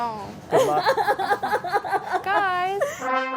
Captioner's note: laughing